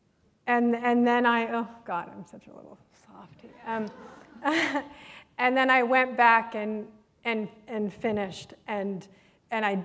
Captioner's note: laughter